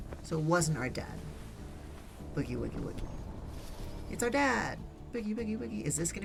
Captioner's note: none